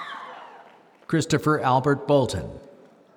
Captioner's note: applause